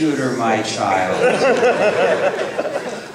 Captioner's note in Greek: Γέλια, από το κοινό